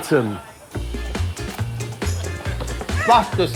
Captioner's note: audience applauding